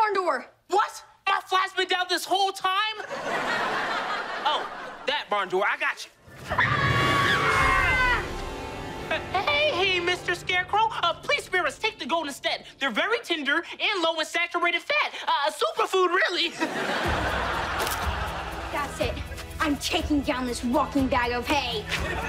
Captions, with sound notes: What? My fly's been down this whole time? Oh, that barn door. I got you. ( screaming ) Hey, Mr. Scarecrow. Please spare us. Take the goat instead. They're very tender and low in saturated fat. A superfood, really. That's it. I'm taking down this walking bag of hay.